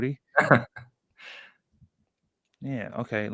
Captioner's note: laughs